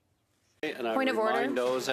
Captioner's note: speaking French